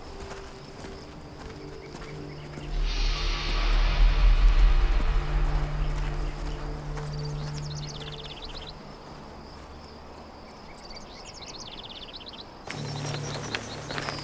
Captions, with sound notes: (birds chirping) It's at moments like this,